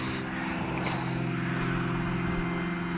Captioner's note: sniffles, voice trembling